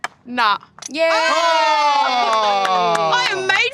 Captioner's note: all exclaim